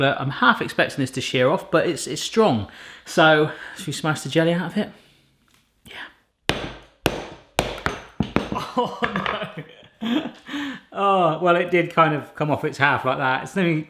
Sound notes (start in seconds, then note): 6.5 banging; 9.2 laughs